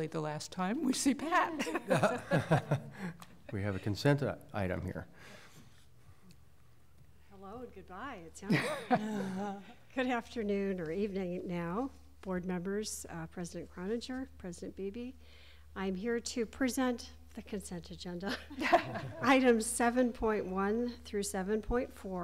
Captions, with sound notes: agenda next time. So now maybe for temporary the last time -- (Laughter) >>: We had a consent item here. >>: Hello and goodbye -- >>: Good afternoon or evening now board members, President Beebe, President Cloninger. I am here to present the consent